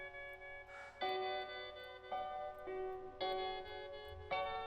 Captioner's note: Kristen sighs